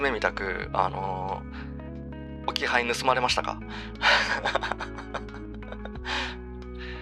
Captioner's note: laughs